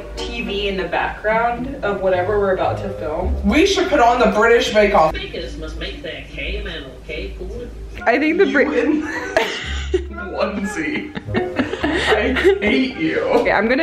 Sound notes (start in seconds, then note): 5.2 TV program running; 10.4 both laughing